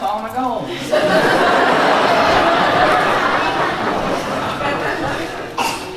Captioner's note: laughter